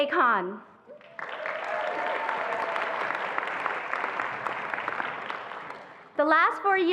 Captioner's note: attendees applauding and cheering